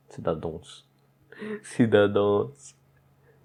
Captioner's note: laugh in despair